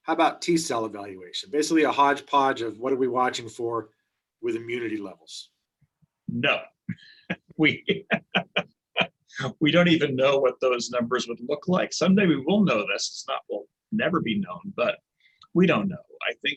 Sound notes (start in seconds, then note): 6.8 laughs